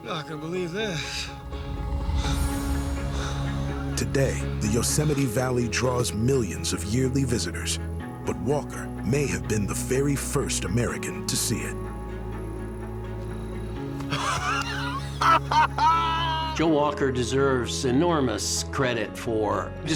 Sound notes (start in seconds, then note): 14.0 laughing